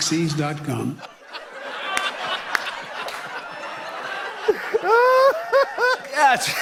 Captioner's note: laughter and applause